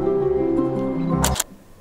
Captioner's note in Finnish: kameran ääni